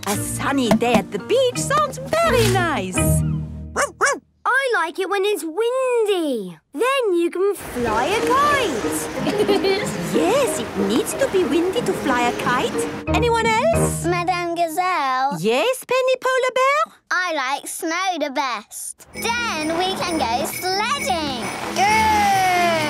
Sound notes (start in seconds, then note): 3.7 barking; 9.2 laughing